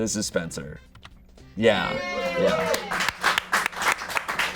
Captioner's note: audience cheering; audience applauding